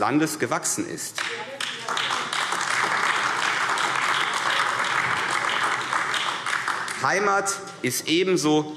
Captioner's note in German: Beifall AfD